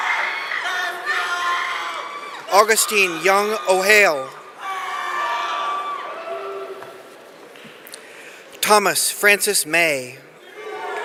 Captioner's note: cheering